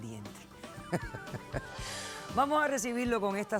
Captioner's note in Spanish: risas